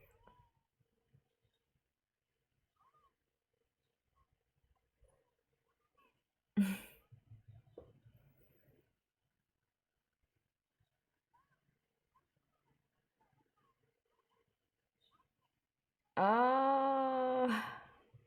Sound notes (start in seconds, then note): 6.6 chuckles